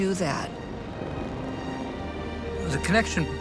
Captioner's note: flames raging